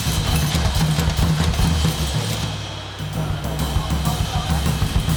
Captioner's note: machine clunking; wheel whirring